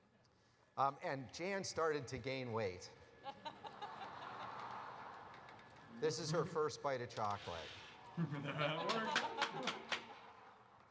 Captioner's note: laugther